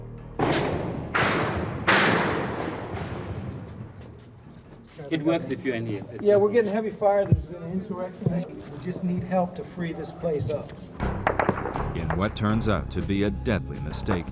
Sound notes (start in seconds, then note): 0.4 gunshots; 4.7 people speaking in foreign language